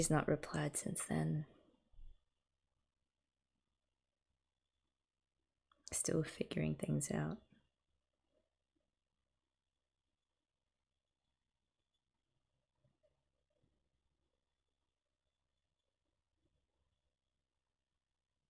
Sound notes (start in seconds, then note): none